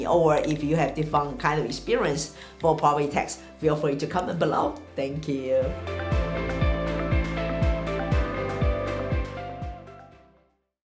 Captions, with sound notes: Or if you have different kind of experience for property tax, (mouse clicks) feel free to comment below. Thank you. (upbeat music)